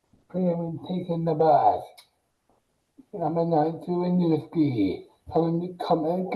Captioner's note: mumbles excitedly